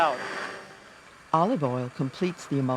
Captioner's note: voiceover